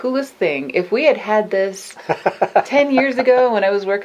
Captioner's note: laughs